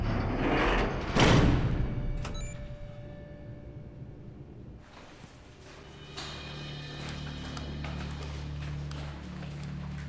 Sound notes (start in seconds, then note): 2.2 beeps